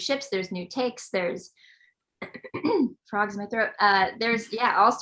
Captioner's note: clears throat